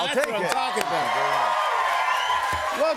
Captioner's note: cheers and applause